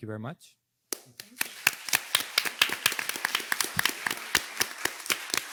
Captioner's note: participants clapping